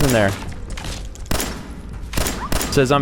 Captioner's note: blam!